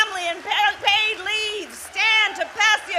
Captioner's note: applause